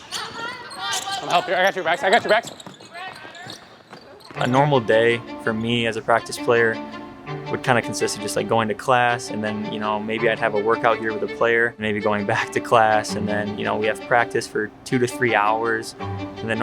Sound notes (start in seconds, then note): 2.7 people exclaiming; 2.7 shoes squeaking